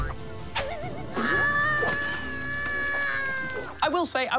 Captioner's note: screams